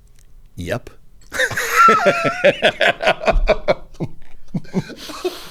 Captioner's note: laughing